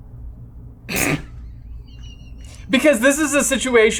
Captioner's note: laughing